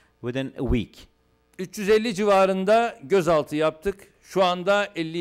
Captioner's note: non-english speech